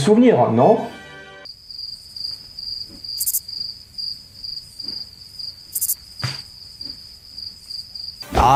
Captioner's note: noises of crickets